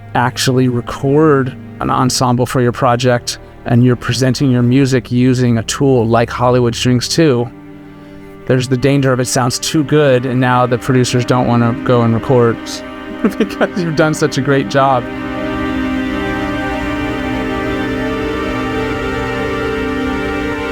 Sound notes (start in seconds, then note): 12.8 laughs; 15.2 light majestic music